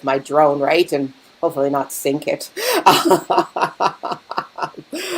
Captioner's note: laughing